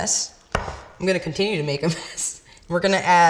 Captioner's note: laughs